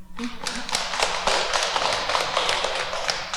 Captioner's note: applause